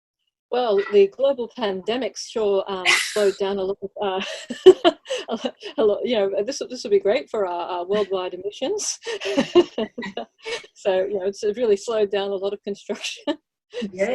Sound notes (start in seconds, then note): 2.8 laughs; 9.0 laughs